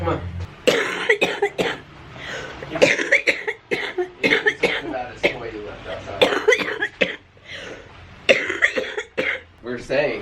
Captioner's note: coughing